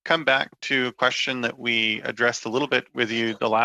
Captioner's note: speaking French